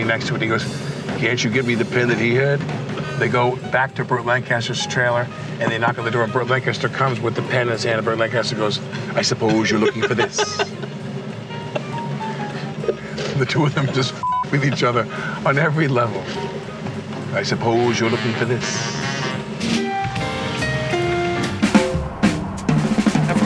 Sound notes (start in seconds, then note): 9.0 laughing; 19.9 upbeat music